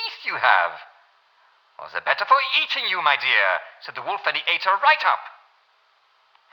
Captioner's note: German accent